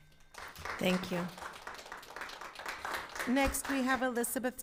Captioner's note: audience applauding